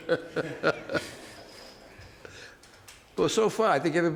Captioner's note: chuckles